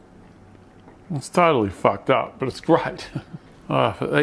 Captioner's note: laughs